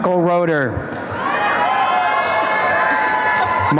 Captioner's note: applause and cheering